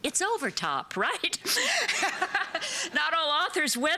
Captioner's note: laughter